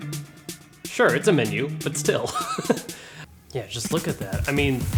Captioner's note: chuckling